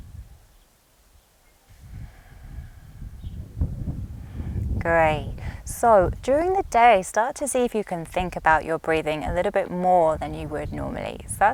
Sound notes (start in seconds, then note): 1.7 inhales softly; 1.7 exhales deeply